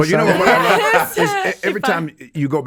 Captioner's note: all chuckling